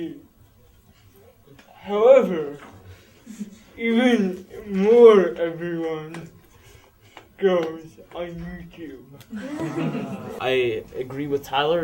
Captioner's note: laughter